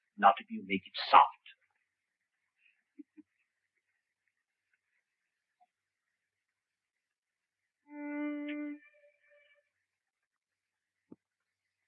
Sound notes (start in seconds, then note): 2.9 Sherlock chuckles; 7.9 light violin music